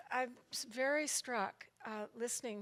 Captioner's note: none